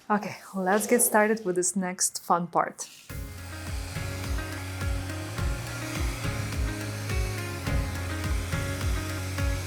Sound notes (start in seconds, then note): 3.1 gadget whirring; 3.1 pleasant music